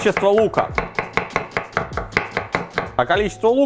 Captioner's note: cutting sounds